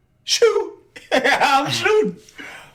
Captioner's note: laughing